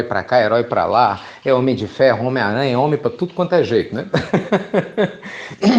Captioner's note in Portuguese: Risos